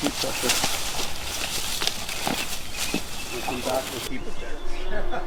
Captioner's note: underbrush rustling